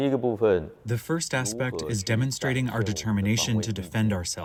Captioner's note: through translator